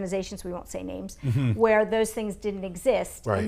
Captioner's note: chuckles